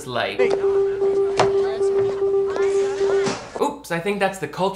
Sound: faint alarm beeping; students chattering quietly

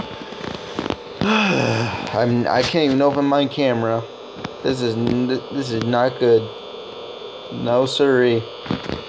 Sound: I sigh angrily

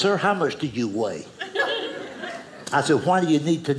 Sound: audience laughing

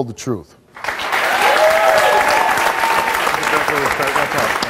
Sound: audience applauds

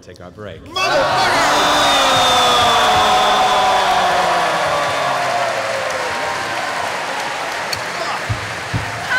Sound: cheering

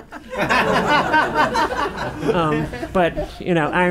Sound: laughing

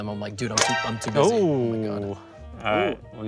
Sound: toaster pops

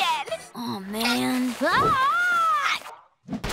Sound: screaming

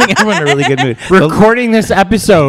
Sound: continues to laugh

